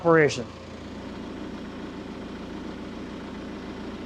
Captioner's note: telehandler whirring